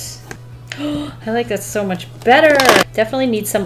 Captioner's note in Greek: Κοφτή ανάσα